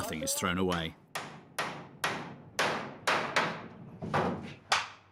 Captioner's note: hammering sound